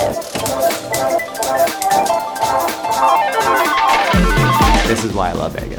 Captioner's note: upbeat music; slot machine whirring